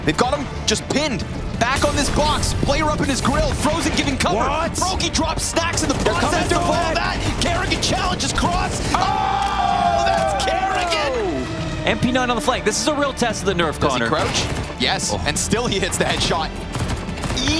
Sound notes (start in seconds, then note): 7.9 players cheering